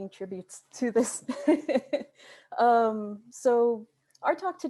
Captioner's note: laughs